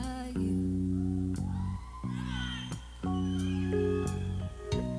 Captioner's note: audience cheering